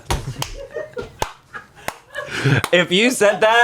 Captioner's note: claps